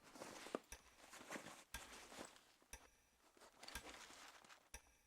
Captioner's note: ticking